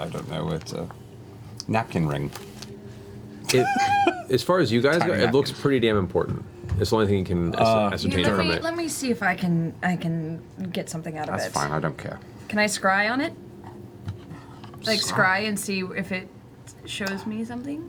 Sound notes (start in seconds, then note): 3.5 laughs